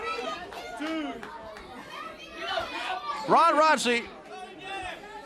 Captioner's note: crowd cheering